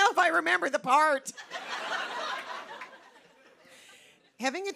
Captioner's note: laughter